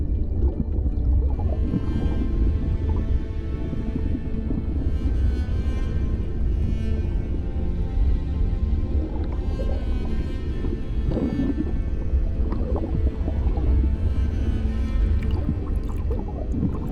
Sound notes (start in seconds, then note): 0.3 soft melancholic music continues; 9.7 bubbles continue gurgling